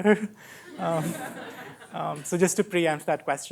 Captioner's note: laughter